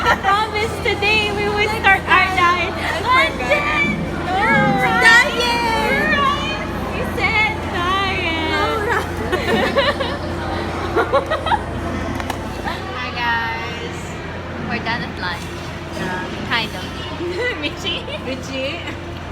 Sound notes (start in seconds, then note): 10.4 munch Munch Munch